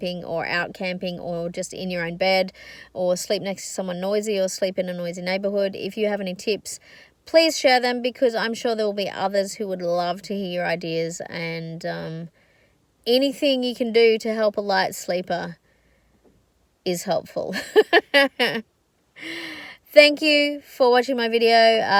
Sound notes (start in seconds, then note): 17.5 chuckles